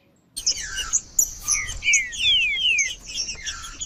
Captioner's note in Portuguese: trinca ferro cantando